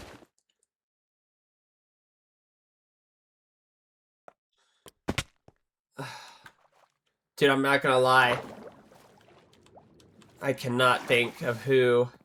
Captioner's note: sighs